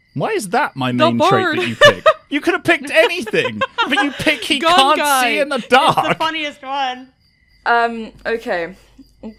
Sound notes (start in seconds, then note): 1.4 laughter; 6.0 laughing